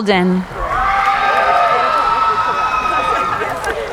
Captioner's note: cheering